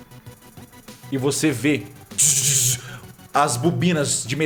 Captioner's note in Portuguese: buzzz